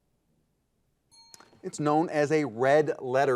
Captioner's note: timer beeping